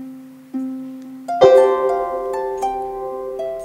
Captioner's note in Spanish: música de guitarra; gong